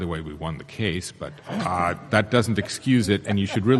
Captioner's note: panel laughs